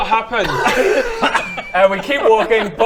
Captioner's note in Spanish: risas